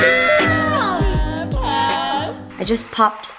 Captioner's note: screams